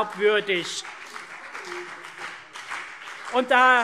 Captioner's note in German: Beifall CDU und BÜNDNIS 90/DIE GRÜNEN - Lebhafte Zurufe SPD